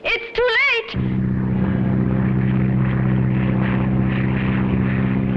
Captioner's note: plane droning